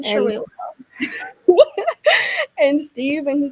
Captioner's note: laughing